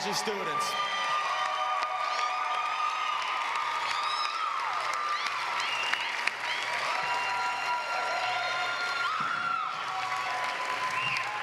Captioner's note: applause